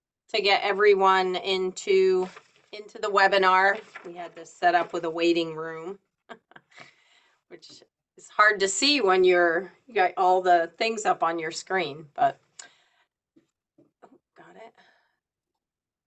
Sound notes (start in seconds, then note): 6.3 laughs